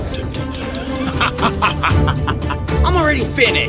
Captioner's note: manic laughing